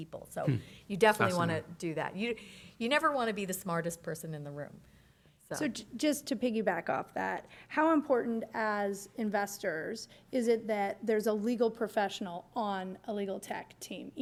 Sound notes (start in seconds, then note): none